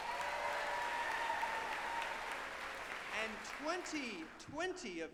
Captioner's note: group applauding and cheering